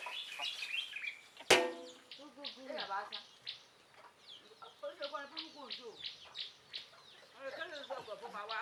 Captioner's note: birds chirping